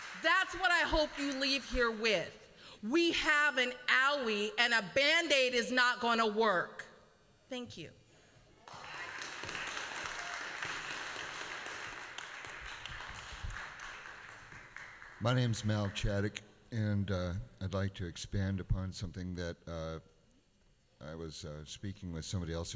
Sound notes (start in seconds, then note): 8.6 applause